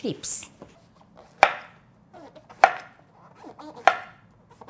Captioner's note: knife chopping